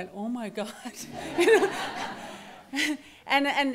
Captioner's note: laughter